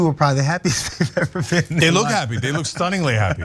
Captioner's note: laugh